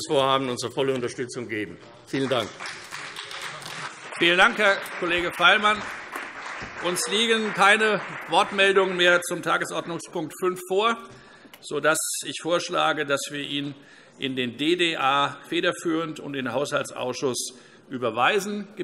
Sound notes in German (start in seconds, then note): 2.8 Beifall CDU und BÜNDNIS 90/DIE GRÜNEN